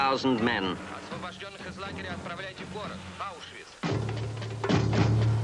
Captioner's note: soldier speaking in foreign language; unsettling music